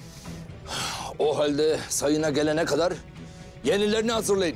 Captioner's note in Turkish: İç çekiyor